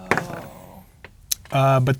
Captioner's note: dice rolling